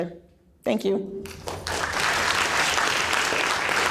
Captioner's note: applause